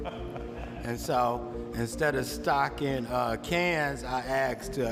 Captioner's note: laughs